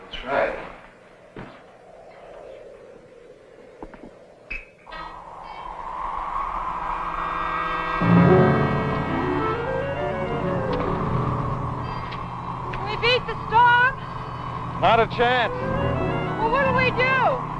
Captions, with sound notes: We'll try it. (wind blowing) (ominous music) - Will we beat the storm? - Not a chance. - Well, what'll we do?